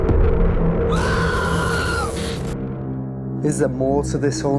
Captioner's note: screaming